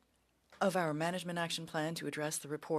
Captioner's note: speaking French